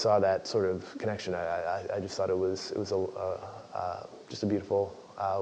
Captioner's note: laugh